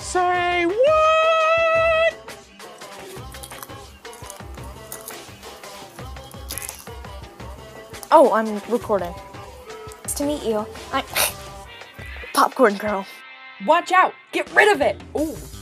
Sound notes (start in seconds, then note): 2.7 crOnCh; 11.2 heuchk